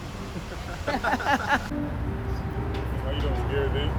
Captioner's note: laughing